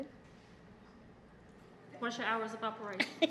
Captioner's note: laughter